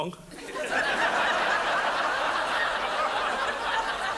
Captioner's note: audience laughs